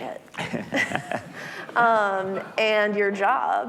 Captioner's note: laughing